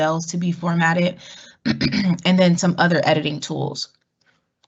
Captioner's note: cough